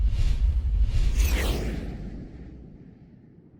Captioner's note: whooshing